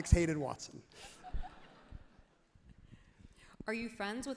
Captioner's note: crowd laughs happily